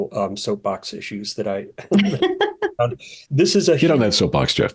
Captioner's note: chuckles; chuckling